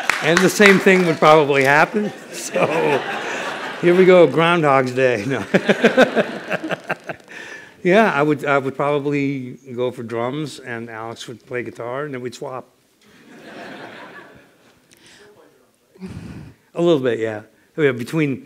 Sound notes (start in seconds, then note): 2.2 laughs; 10.2 laughter